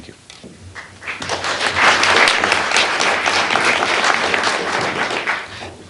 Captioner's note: applause